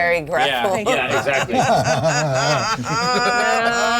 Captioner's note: laughs